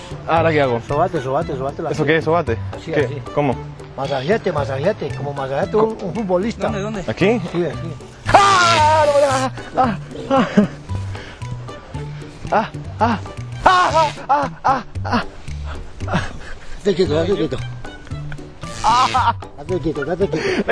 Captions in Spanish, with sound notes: ¿Ahora qué hago?, Sobate sobate la pierna... ¿Cómo? Masajéate, masajéate ¿Aquí? *Gritos* *Gritos* Estate quieto estate quieto *Gritos*